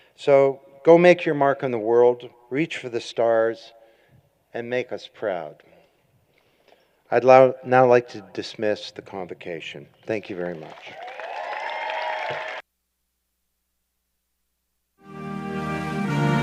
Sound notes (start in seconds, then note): 11.8 applause